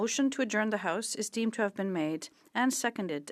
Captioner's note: speaking French